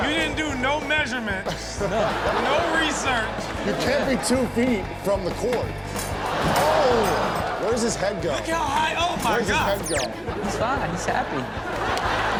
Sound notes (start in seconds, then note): 1.5 audience laughing; 6.2 audience exclaims